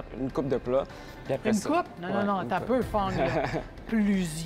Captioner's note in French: rires